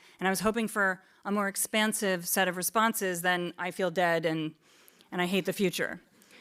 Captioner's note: none